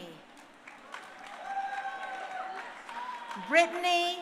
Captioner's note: crowd cheering